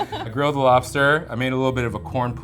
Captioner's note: laughs; chuckles